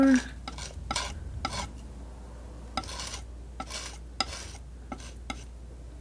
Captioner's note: metal scraping